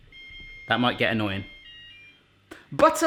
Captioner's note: beeping